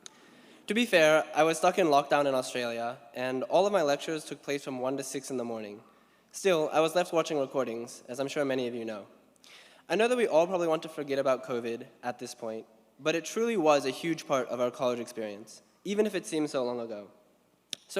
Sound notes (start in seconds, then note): none